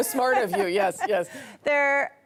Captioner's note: laughter